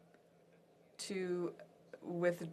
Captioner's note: speaking French